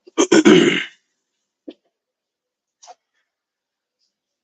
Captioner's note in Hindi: गला साफ़ करने की आवाज़